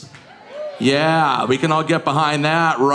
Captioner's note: audience cheering